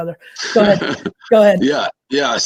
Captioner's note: David laughs